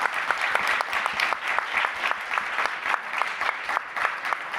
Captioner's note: audience applauding